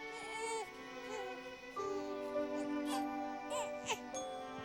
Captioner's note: baby crying